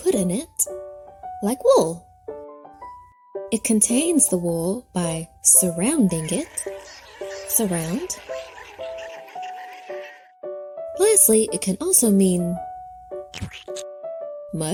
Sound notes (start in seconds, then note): 6.2 ants gibbering; 13.4 mud splatting